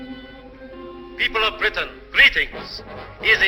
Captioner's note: radio broadcast